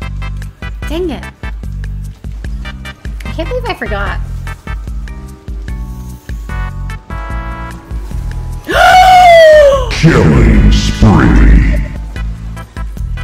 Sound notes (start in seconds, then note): 8.6 inhalinggaspingindisbelief